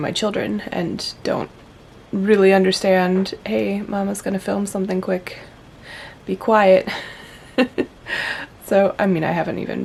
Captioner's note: laughs